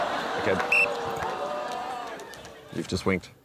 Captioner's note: blows whistle